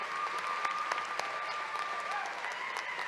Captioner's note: applause